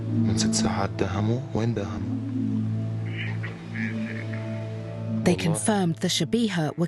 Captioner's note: through translator